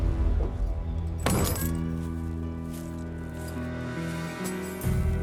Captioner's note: tense music; trunk closes, keys jangle